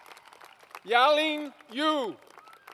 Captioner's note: applause